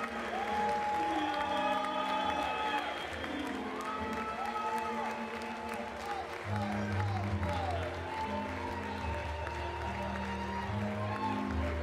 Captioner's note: applause; cheering and Applause